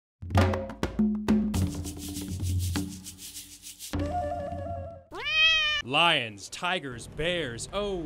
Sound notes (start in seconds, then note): 0.2 jungle music; 5.0 cat meows